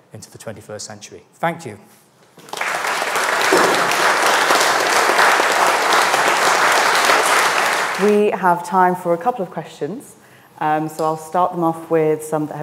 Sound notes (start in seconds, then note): 2.4 audience applauding